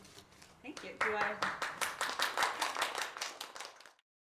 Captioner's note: applause